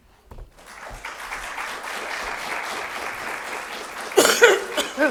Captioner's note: audience applauding